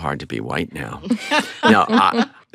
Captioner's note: laughs